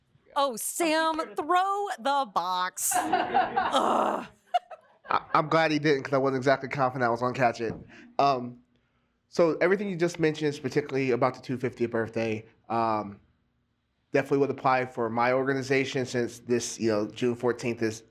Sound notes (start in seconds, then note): 2.9 laughter